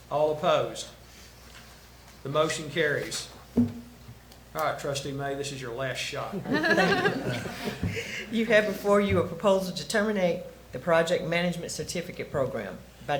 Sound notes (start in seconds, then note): 6.3 attendees laugh